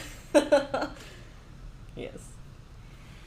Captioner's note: laughs